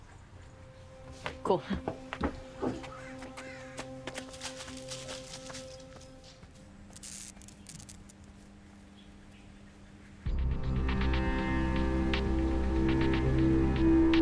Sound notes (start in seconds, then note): 2.3 pensive music; 5.2 leaves rustle; 6.6 light buzzing; 10.2 ominous music